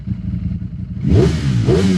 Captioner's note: engine revving